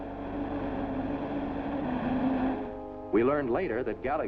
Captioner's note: car speeding